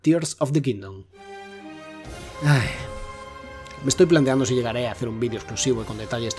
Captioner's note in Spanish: suspiro largo